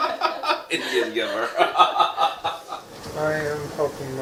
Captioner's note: laughing; all laughing